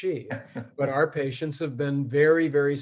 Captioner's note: laughs